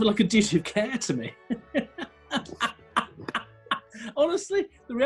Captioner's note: laughing